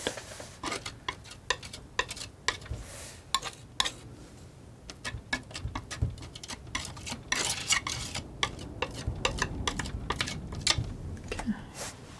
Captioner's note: tapping